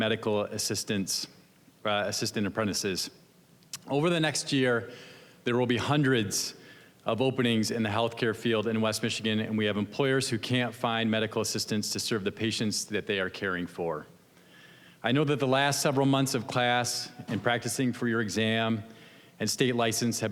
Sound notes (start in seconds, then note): none